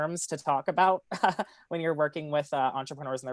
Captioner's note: laughs